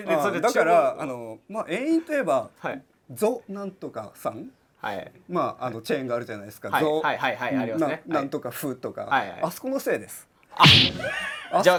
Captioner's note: laugh